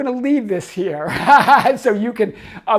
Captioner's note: laughs